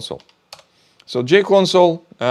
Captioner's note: keyboard clicking